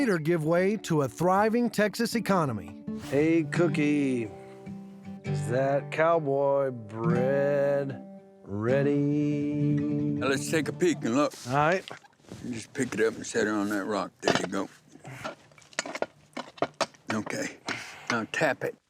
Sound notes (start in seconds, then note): 14.2 scraping sounds